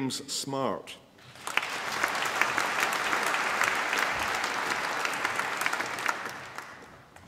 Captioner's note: applause